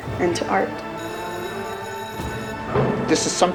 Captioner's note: school bell ringing